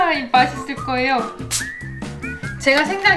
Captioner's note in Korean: 에취!